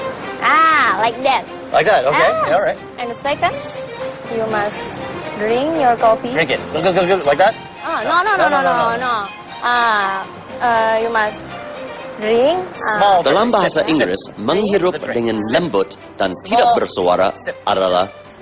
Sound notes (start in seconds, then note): 14.3 non-english speech